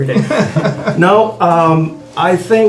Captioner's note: all laughing